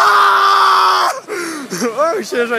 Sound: gasp of distress

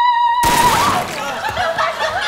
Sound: singing; gun Shot

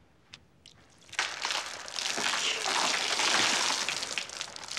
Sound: water pours

